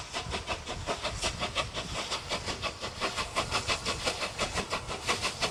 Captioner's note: train passes